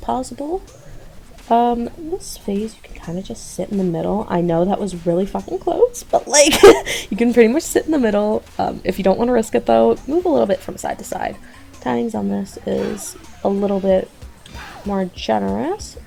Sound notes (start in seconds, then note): 6.0 loud voice crack